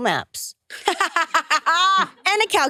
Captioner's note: participants laughing